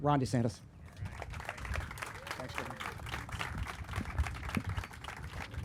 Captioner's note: audience applauding